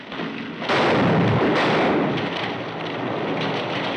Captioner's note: gunshots